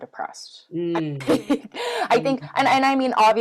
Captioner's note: laughs